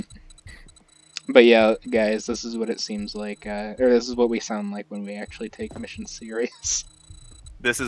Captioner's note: laughs